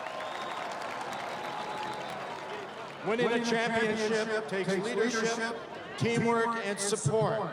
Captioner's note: applause; cheering